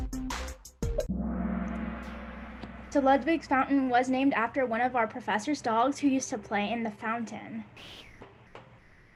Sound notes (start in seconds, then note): 1.0 gong